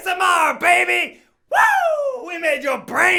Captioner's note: screaming